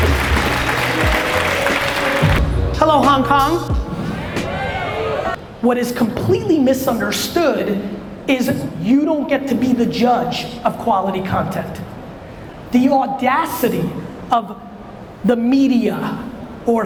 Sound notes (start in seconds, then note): 3.9 audience cheers